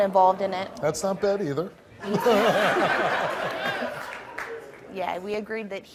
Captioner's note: laughs